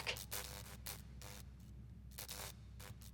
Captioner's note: lights crackle